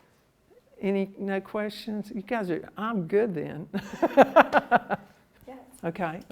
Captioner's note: laughs